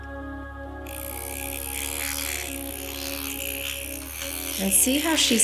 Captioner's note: machine vibrating